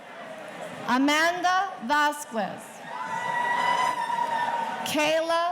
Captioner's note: audience cheering